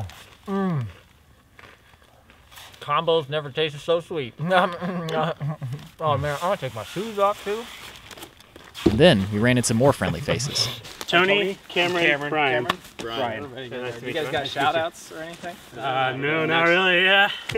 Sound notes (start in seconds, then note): 4.4 laughs